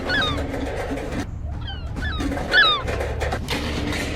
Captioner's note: trash can falling; gull squawking